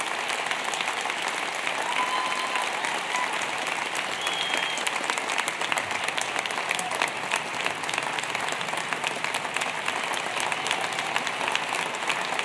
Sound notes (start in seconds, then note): 0.6 applause